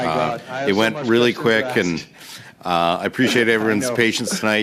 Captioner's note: speaking French